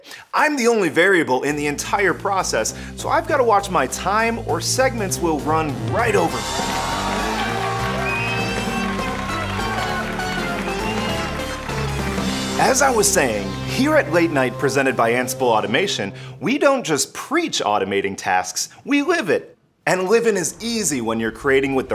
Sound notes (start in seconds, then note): 6.0 crowd cheering; 6.6 upbeat music